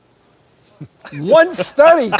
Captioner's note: giggling